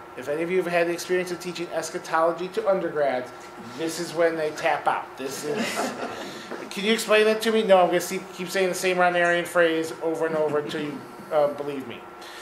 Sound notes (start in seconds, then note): 5.4 laughing